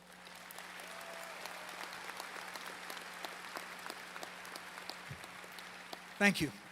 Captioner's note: applause